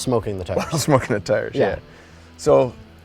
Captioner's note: laughs